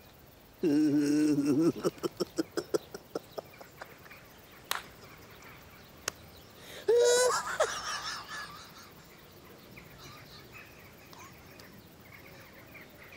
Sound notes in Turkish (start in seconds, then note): 4.3 Gülüyor